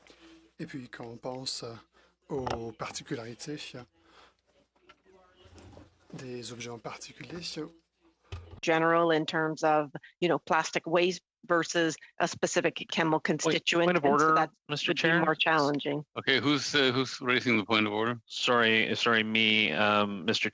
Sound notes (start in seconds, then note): 6.2 speaking French